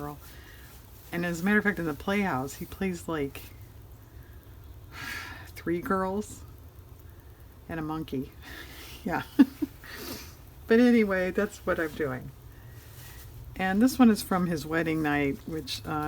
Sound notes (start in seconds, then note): 8.7 laughs